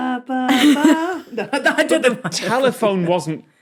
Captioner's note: laughs; giggles